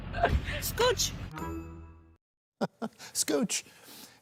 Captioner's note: laughter